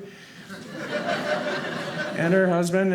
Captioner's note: audience laughing